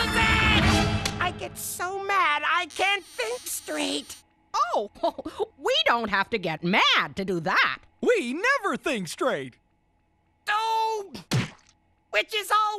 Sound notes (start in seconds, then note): none